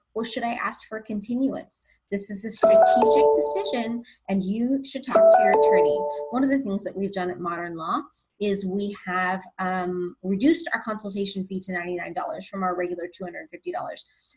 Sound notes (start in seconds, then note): 5.1 bell chimes